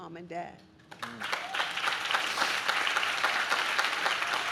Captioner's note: audience claps